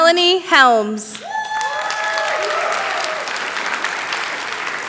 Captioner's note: applause